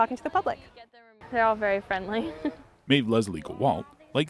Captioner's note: giggling